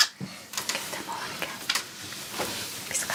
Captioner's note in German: Flüsternd